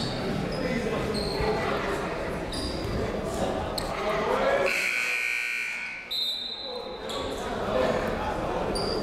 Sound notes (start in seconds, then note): 4.6 buzzer; 6.0 whistle